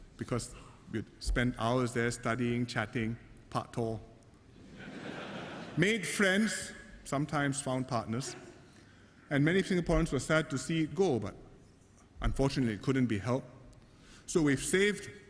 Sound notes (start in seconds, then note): 4.6 laughter